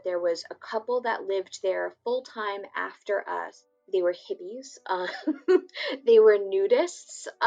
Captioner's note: laughs